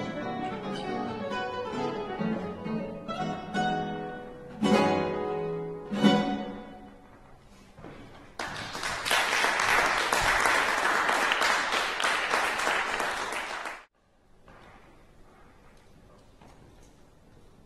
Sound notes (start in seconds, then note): 8.3 clapping